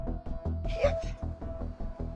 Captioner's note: tense music playing; strained